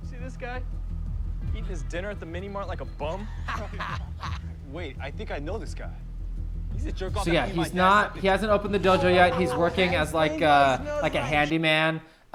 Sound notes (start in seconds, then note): 3.1 laughter